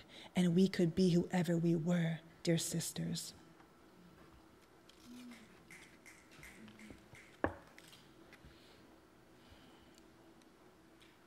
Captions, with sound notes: "and we could be whoever we were. "Dear sisters." (timid applause)